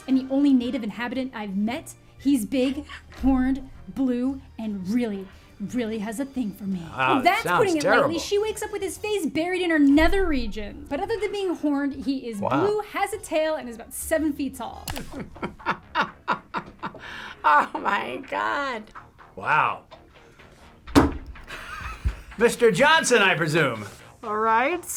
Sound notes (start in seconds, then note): 15.0 chuckles